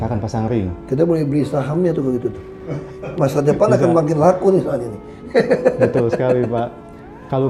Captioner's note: laughing